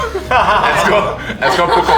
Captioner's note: laughter